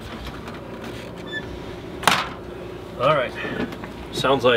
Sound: door slams shut; door opens

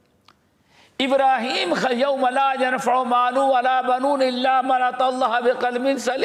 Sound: in Arabic

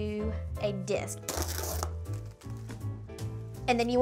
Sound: plastic tearing

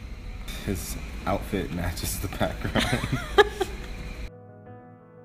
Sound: laughs

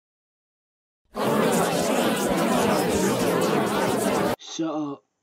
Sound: excited bfb chatter sound effect

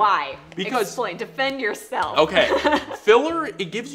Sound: laughs

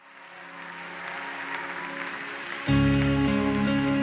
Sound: applause

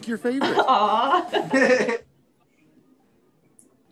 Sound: laughs

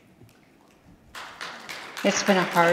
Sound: audience applauds

